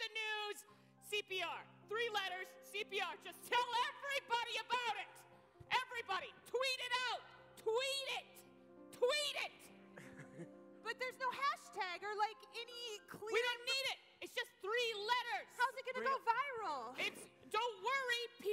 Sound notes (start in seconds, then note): 10.0 chuckles